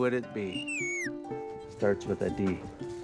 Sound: whistles

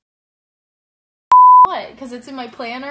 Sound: beeping

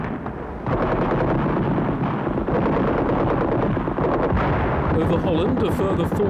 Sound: tank and machine guns firing

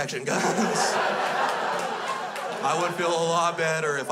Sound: crowd laughs

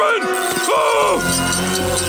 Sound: screaming

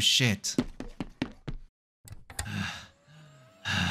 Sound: heavy breathing

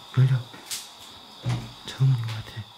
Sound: the sound of the door opening

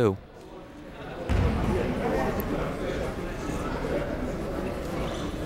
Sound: people talking in the crowd

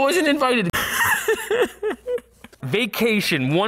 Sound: cries

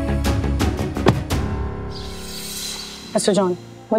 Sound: birds chirping

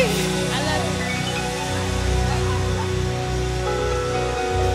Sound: indistinct chatter

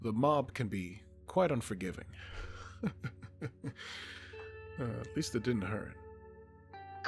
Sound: laughs

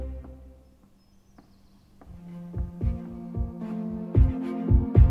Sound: footsteps clicking

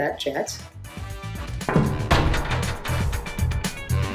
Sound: window glass thuds; catchy music continues

